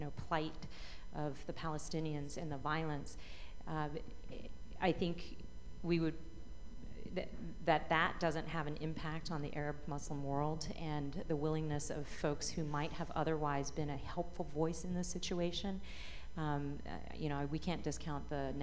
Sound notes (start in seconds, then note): none